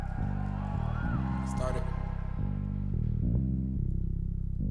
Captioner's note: audience cheering